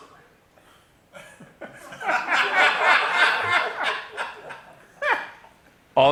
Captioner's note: laughter